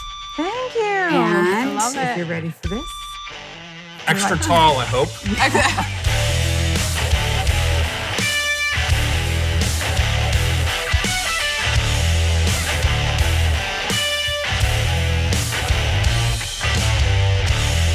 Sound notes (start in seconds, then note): 4.1 everyone laughs; 6.3 upbeat electric guitar